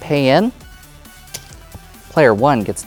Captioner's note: tokens clattering